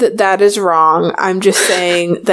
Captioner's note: laughs